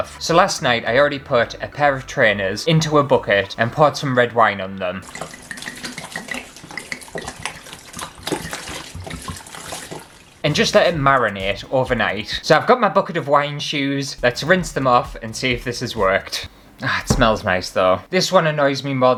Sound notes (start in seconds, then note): 4.9 glug, Glug, Glug